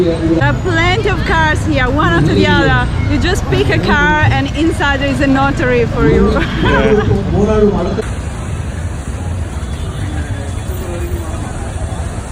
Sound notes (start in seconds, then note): 6.0 laughing